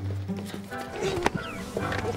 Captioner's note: both groaning